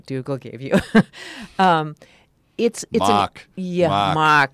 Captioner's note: laugh